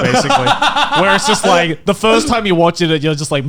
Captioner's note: Garnt laughs